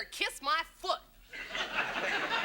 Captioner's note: audience laughs